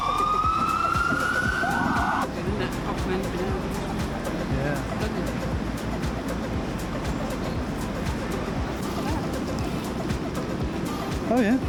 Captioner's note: sirens